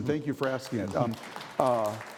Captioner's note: audience applauding